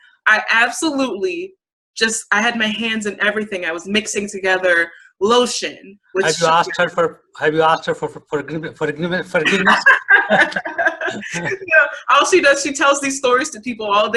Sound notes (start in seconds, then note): 8.7 laughs